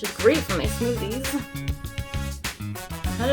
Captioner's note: laughs